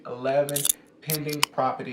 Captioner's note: can opening